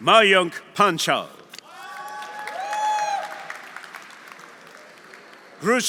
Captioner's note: audience cheering; audience applauding